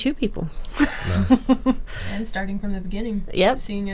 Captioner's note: people laughing